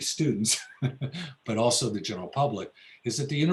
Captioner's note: laughs